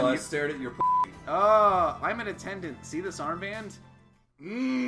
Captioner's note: discomforted ah